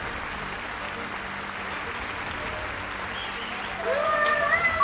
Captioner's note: all applause